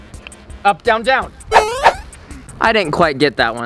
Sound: electronic beeping

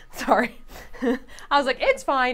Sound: chuckling

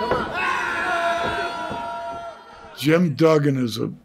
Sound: crowd screaming

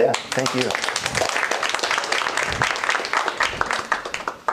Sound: applause

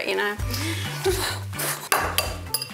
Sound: scoffs; egg knocks

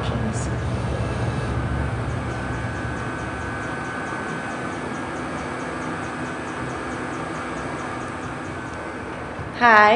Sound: laser cutter sound

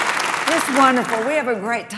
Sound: cheering

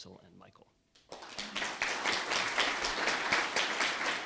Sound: audience applauds

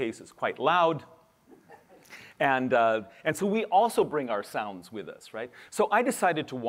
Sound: laughter

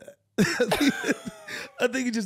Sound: laughing

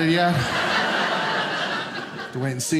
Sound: audience laughing

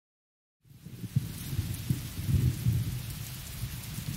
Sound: rain, thunder

